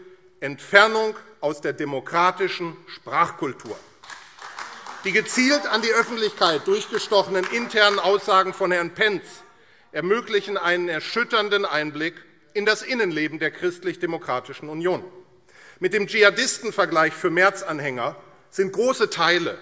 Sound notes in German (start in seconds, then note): 3.7 Beifall AfD - Zurufe CDU